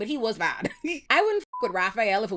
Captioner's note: beep